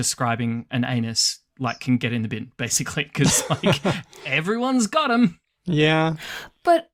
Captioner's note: laughs